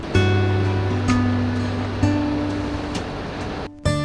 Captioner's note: engine rumbling